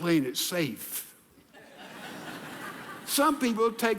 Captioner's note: audience laughing